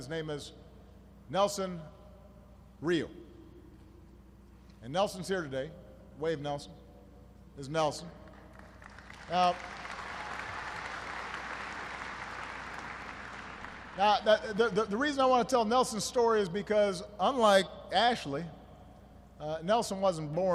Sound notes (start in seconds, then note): 14.2 applause